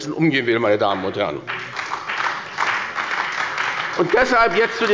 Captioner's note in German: Beifall bei der SPD